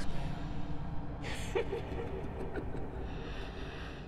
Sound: laughter

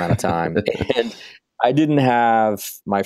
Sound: laughing

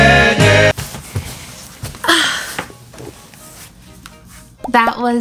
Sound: another big sigh

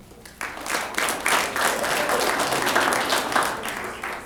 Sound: applause

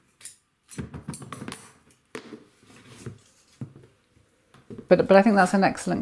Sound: scissors snip; tape roll hisses; scissors clatter; tape thumps

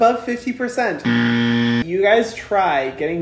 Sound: buzzer

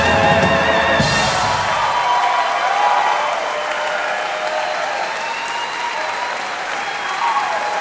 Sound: audience applauding

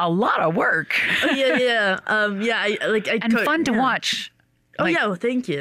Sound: laughs

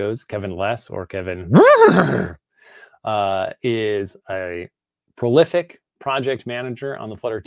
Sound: imitates horse neigh

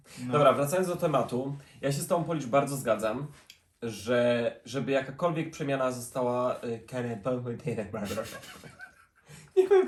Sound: speaks gibberish

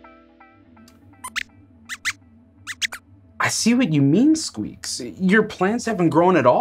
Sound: squeaks squeaks

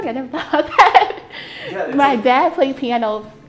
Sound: laughing

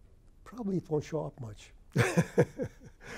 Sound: laughs

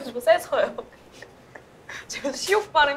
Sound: she cracks up

